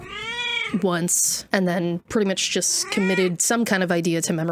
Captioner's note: cat squawking in background; cat yodelling